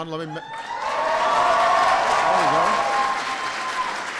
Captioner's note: applause